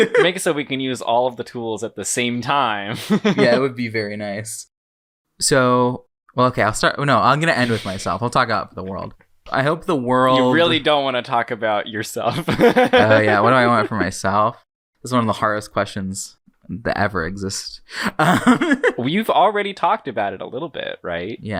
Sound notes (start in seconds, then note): 0.0 laughs; 3.4 laughs; 7.3 laughs in background; 12.3 laughing; 12.3 laughs; 18.2 laughs